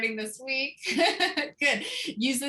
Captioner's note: laughter